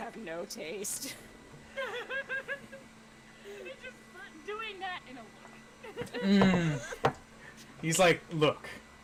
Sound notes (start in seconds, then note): 1.7 laughing